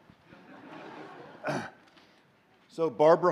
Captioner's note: laughter